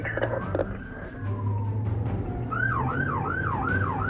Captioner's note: sirens wailing